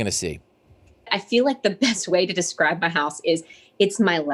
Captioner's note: laughs